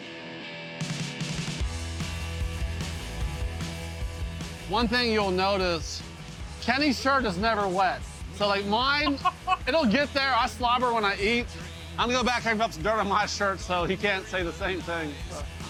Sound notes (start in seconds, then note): 0.9 upbeat music; 8.8 laughs